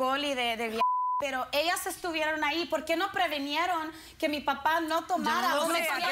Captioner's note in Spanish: Bip